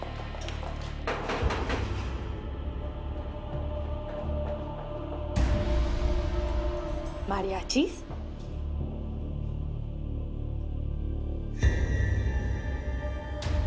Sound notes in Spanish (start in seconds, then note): 1.1 Toques en la puerta